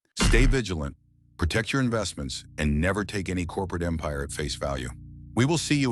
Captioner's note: SFX: dramatic heavy boom